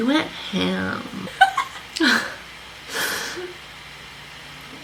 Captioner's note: both laugh